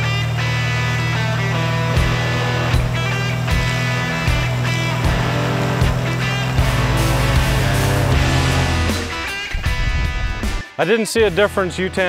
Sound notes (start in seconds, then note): 0.1 wind fan blows; 6.2 blowing continues